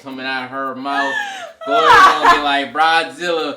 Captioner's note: laughs